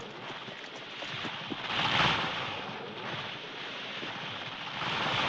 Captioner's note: tree creaking